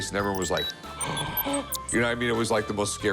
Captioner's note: gasps exaggeratedly